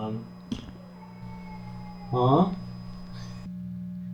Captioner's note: meowing